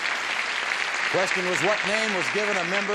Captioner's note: applause